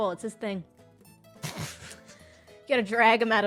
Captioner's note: laughs